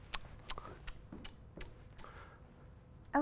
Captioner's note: chewing